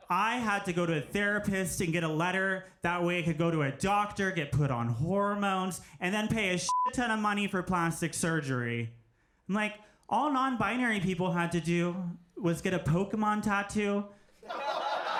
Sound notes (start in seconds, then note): 6.6 beep